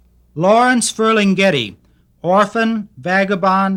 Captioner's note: voiceover